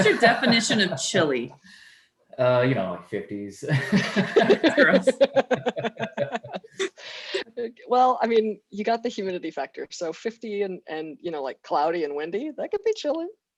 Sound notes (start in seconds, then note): 3.7 laughter